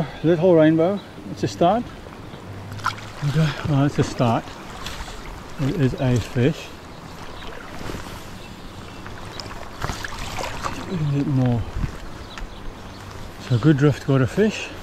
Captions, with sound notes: A little rainbow. It's a start. Well it's a start. It is a fish. [water splashing] A little bit more. So a good drift go to fish.